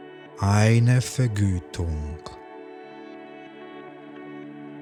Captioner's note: german